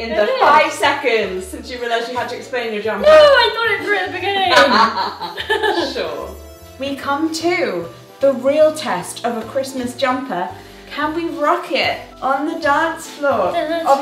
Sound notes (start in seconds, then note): 4.4 laughs